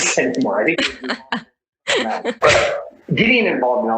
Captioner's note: both laugh